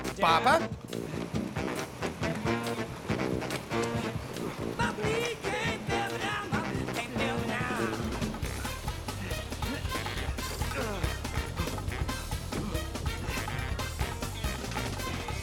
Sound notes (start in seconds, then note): 1.3 panting; 3.0 grunting; 10.6 grunts